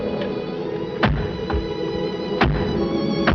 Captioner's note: shutter bangs